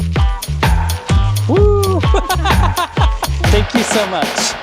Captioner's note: laughing